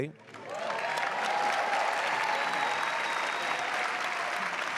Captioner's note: audience cheering